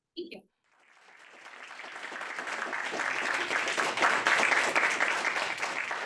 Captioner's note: audience applauds